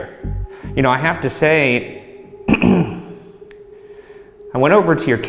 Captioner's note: clearing throat